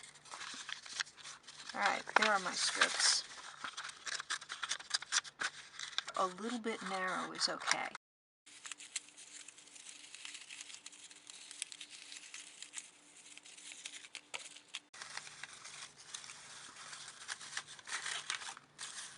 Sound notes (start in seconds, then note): 11.1 folding sounds